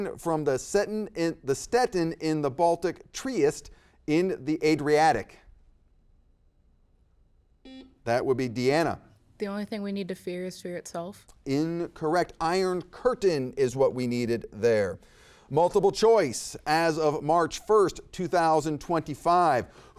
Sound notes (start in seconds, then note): 7.6 buzzer beeps